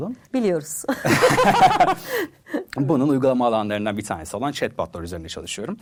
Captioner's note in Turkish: kahkaha